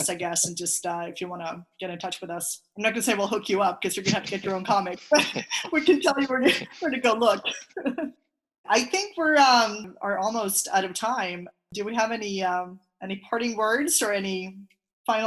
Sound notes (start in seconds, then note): 3.9 laughing